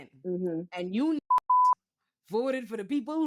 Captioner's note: beep